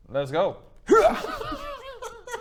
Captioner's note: hyrrghhh